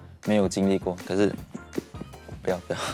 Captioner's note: hitting chair